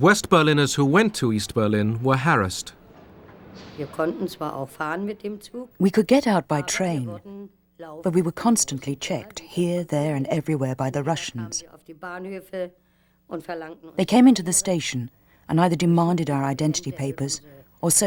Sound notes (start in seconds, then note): 4.2 woman speaking german